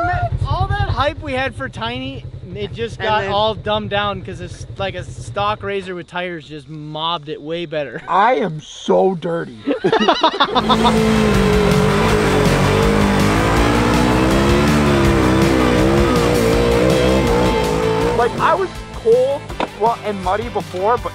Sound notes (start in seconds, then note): 9.6 laughter